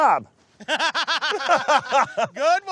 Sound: laughing

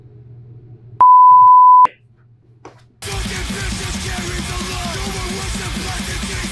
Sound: beep

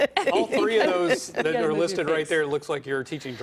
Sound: laughter

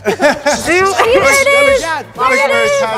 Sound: imitating punching sounds

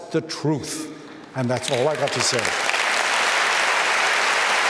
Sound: applause

